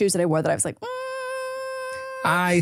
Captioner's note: hums